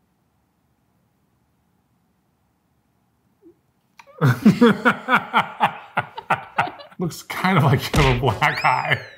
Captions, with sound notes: (both laughing) Looks kind of like you have a black eye.